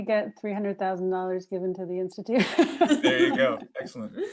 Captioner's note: laughs